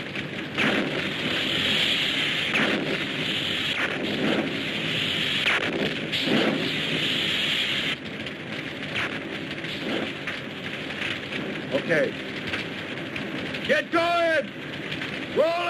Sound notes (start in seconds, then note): 1.0 explosions booming